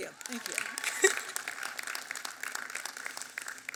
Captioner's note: applause